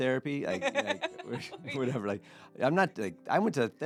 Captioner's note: laughing